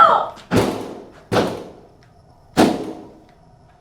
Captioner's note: hands slamming